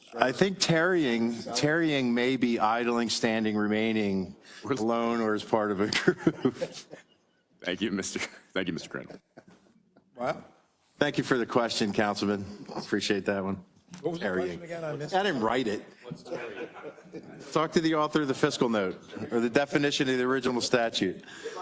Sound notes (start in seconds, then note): 5.9 laugh